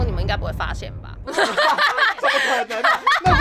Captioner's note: laughs in lack of cleanliness